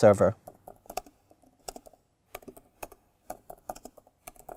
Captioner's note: keyboard clicking